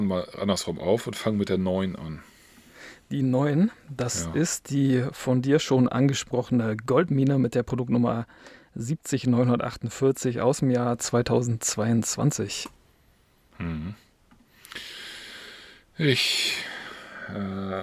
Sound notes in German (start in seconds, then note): 14.8 japst; 16.4 seufzt